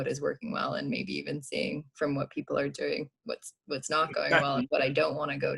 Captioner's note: laughs